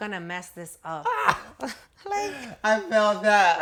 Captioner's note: laughter